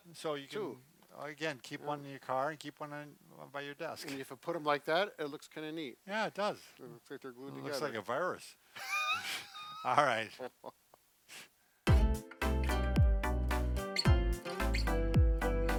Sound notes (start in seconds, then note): 8.7 laughter; 11.9 upbeat music